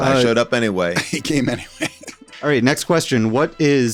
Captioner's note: laughs